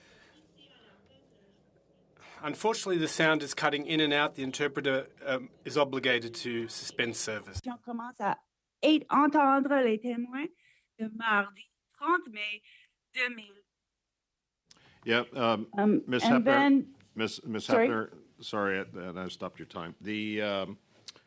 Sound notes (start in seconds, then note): 12.5 speaking French